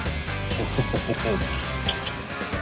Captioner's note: chuckling with delight